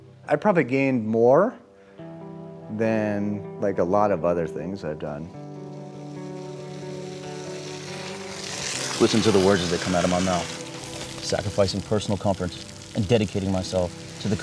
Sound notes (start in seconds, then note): 7.6 water running